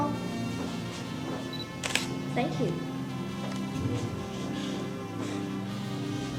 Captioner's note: shutter clicking